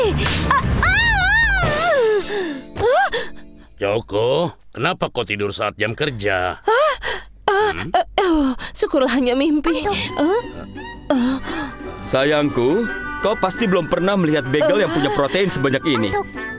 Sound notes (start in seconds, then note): 0.8 Choco screams; 2.1 Choco gasps; 7.5 sighs